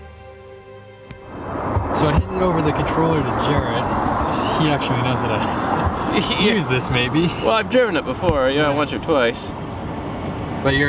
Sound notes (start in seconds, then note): 6.0 laughter